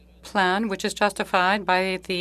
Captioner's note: speaking French